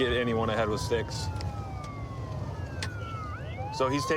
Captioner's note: sirens wailing